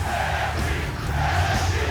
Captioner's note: fans chanting